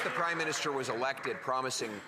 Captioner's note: some Applause